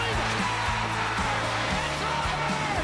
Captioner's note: cheering and APPLAUSE